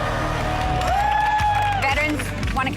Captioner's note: group cheering